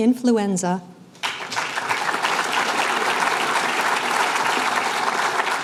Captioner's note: applause